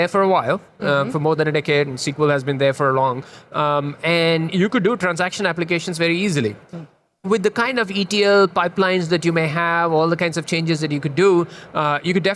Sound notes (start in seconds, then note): none